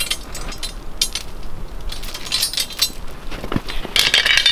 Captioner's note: metal rattling